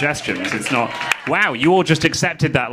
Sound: audience clapping

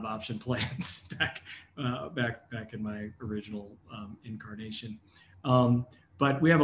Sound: laugh

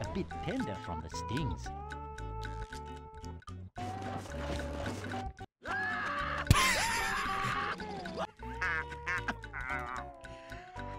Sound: laughs

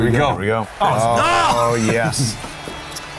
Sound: yells

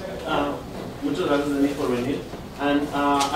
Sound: spanish

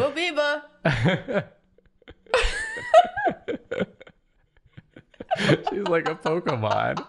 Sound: laughter

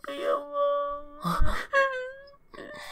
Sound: gasp

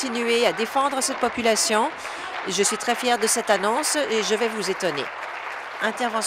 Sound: applause

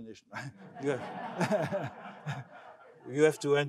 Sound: crowd laughing

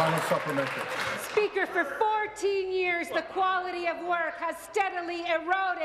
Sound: applause

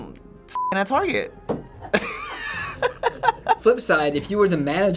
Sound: Finebros cracks up

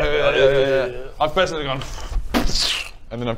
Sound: booofscsh

